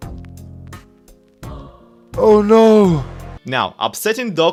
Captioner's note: gasps